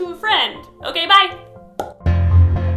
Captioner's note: pop